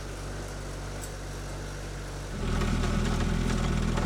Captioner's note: engine revving